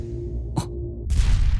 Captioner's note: alert